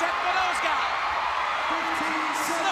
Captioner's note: crowd cheering